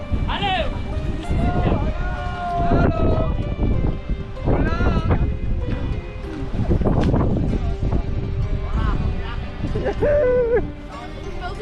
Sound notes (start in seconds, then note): 9.7 laughter